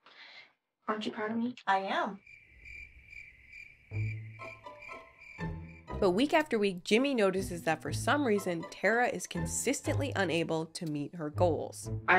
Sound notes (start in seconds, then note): 2.1 crickets chirp; 3.9 soft jaunty music